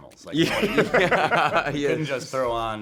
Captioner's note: cast laughing